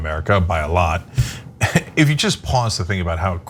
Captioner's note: laugh